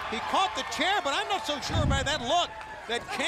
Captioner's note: crowd chatter